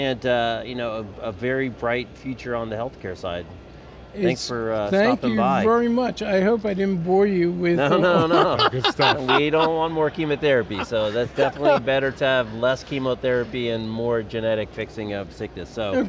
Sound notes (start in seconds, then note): 7.7 laugh